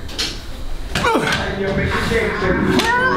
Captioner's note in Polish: ugh